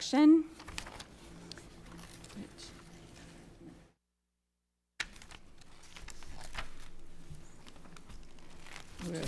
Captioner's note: pages rustling